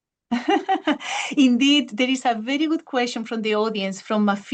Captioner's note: chuckles